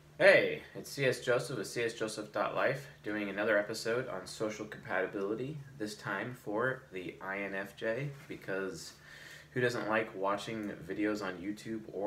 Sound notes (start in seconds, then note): none